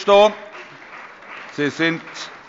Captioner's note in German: Allgemeiner Beifall